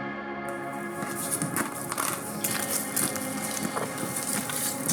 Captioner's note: ice crunching